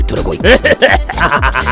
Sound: cough

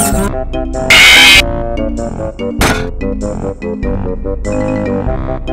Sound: Screech

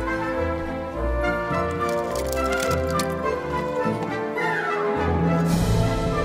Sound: bright classical music; fire crackles

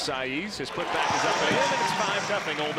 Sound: crowd drowns out commentator

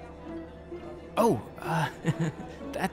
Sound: laughs

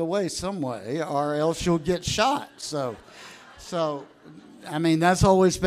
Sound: audience laughs

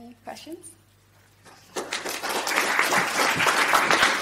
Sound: applause

